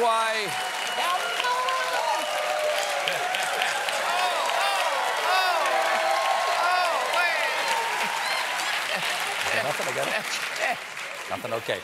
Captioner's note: cheers and applause; laughter